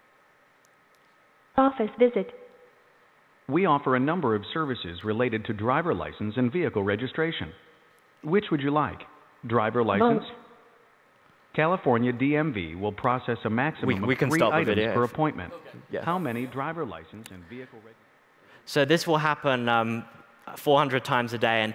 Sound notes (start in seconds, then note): 0.6 female Robotic Voice; 2.8 male Robotic Voice; 10.1 female Robotic Voice; 11.5 male Robotic Voice; 15.2 male Robotic Voice